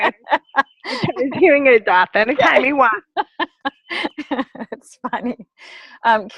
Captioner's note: laughter